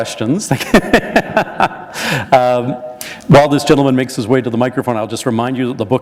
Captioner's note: laughter